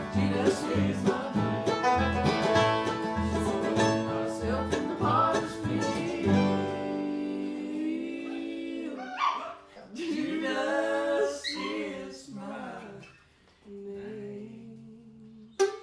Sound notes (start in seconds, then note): 8.9 dog yelps